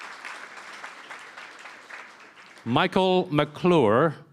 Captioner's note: applause